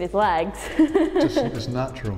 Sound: laughter

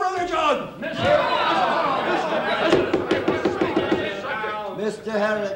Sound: confused shouting; gavel pounding

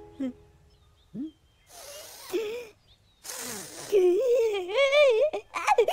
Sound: inhaling

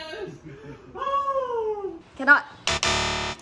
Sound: exclaims

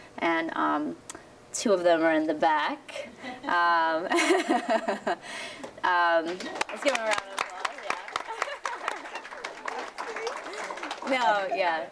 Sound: laughter; applause

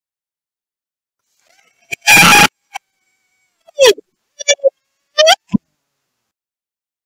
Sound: glitched screaming

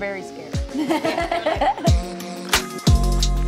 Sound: laughs; mid tempo music

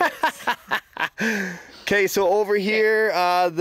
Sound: laughing

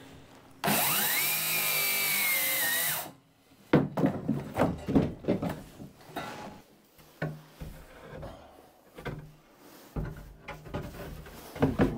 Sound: drill whirring

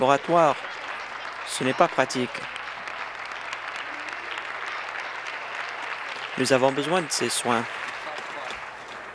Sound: applause

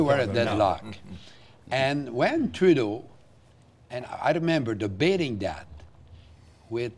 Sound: mixed voices

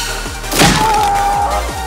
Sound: crunch

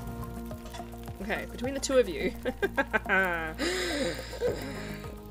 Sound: laughs

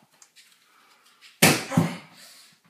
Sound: grunts

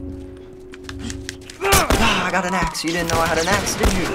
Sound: Joel grunts, gunshot

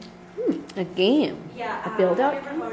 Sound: voiceover

